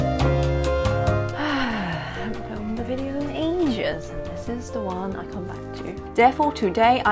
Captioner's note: sigh